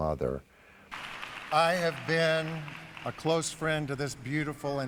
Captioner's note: applause